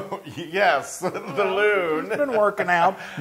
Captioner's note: laugh